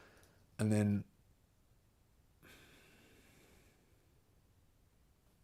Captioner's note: silence